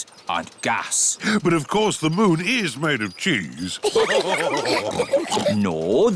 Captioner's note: all laugh